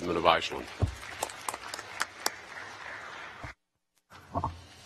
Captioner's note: applause